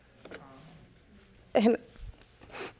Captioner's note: sniffling